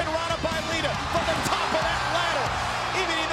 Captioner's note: audience cheering